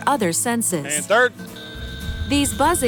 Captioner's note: buzz